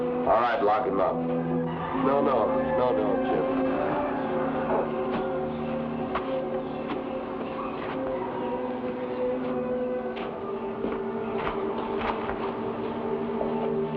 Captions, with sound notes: - All right, lock him up. - No, no, no, no, Jim. (footsteps patter)